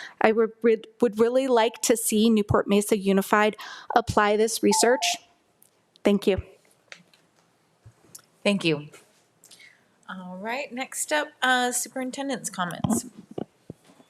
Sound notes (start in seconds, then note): 4.7 timer beeping